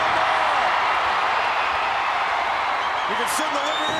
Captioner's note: crowd cheering